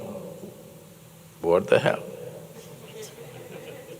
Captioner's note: laughter